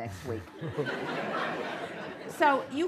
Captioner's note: laughter